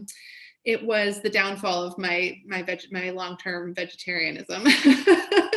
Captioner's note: laughs